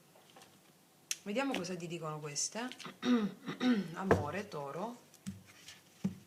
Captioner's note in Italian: schiarire la voce